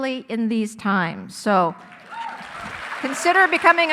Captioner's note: audience applauding